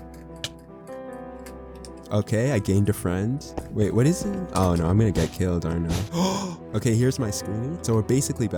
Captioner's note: gasp